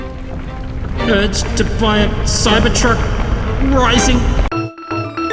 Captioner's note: echoes